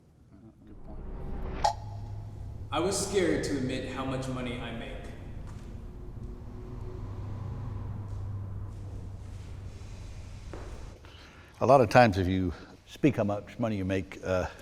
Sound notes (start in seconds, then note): 2.5 offscreen voice